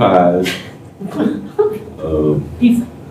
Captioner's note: laughter